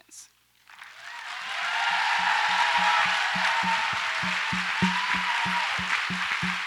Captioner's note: audience applauds and cheers